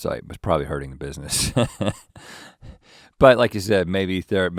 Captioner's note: laughs